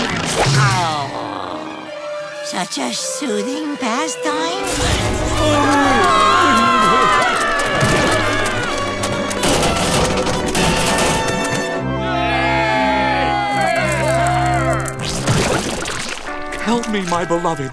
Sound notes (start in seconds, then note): 4.9 screaming; 11.8 cheering